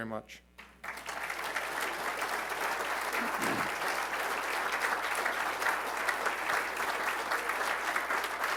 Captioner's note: applause